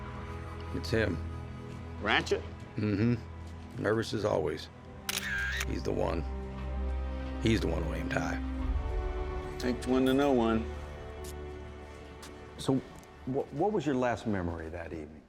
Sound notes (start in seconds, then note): 5.0 camera shutter